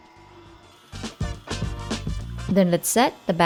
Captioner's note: mixer running